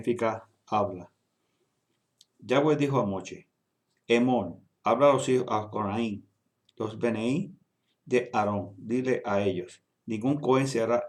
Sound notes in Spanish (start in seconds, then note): 4.8 Habla